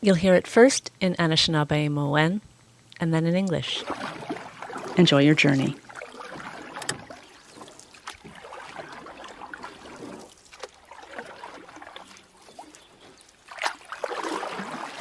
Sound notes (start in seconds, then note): 4.9 sounds of water